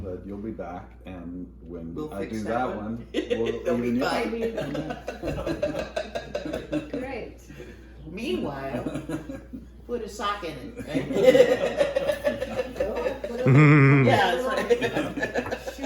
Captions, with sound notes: -but you'll be back. And then... -We'll fix that one. [laughs] They'll be fine. -[laughing] -Okay. -Meanwhile-- -[laughs] -put a soccer in it. Yeah. -[all laughing]